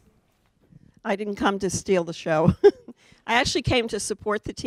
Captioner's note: laughs